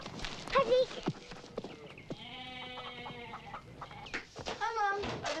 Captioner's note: feet pattering; goat bleats